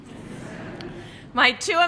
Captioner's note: laughter